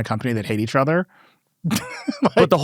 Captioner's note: laughs